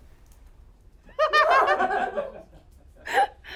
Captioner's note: laugh